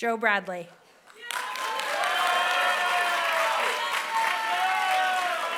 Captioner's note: applause